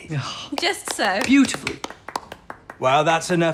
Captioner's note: applause